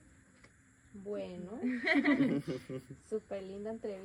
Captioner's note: laughter